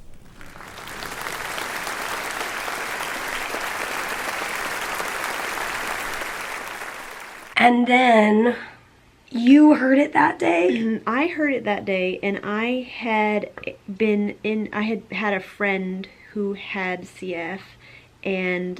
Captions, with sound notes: [applause] And then... You heard it that day. I heard it that day and I had been in, I had had a friend who had CF and